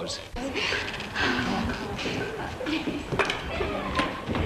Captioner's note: girls chattering